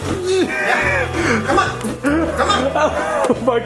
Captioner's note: laughs